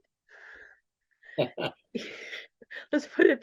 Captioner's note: both laughing